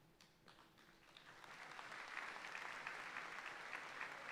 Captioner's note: audience applauding